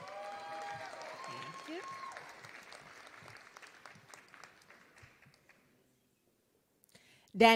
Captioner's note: applause